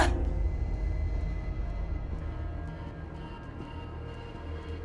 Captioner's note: Hope groaning; slow suspenseful music